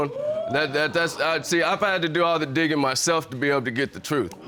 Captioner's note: audience exclaiming